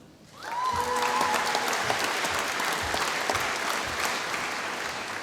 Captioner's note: applause